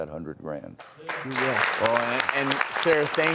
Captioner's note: applause